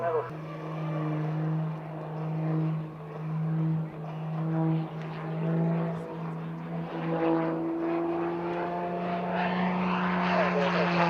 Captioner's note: aircraft sounds